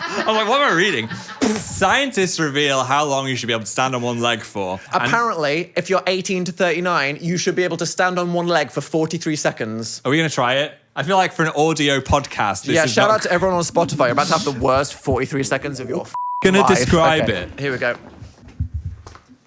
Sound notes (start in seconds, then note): 15.8 beep